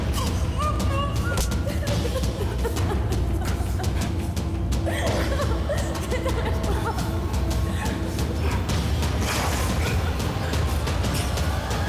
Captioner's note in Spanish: Golpes